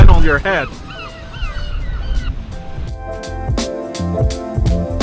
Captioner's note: seagulls calling